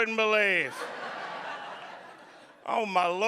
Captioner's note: audience laughing